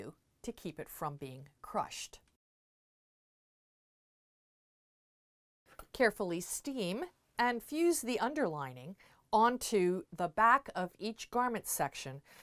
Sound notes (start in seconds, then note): 2.3 no Sound Present